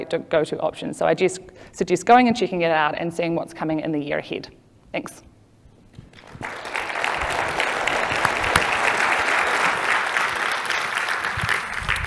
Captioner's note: clapping